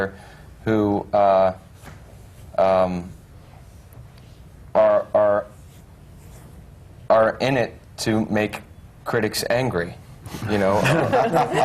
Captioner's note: laughter